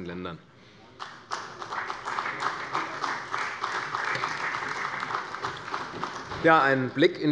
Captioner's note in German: Beifall bei der CDU und der FDP